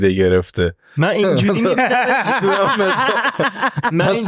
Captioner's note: laughs